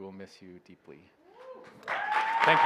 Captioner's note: cheers, applause